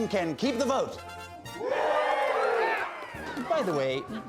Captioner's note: all cheering